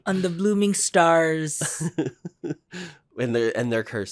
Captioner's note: laughs